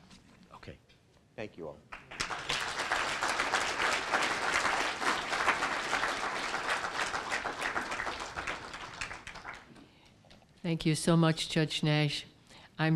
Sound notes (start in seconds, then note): 1.9 applause